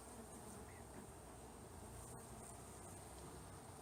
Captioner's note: mutter